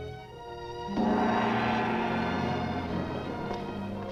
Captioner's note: gong resounds